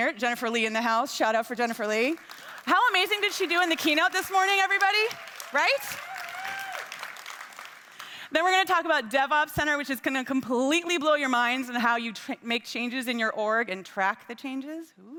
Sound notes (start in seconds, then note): 3.2 attendees clapping; 5.3 attendees cheering